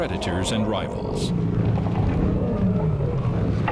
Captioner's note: roaring